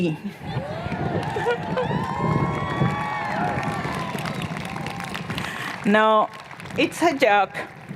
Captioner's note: cheers and Applause